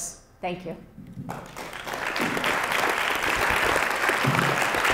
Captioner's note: audience applauds